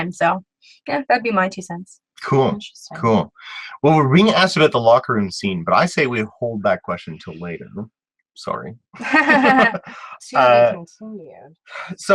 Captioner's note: laughs